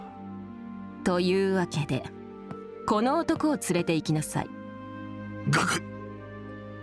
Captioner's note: gulp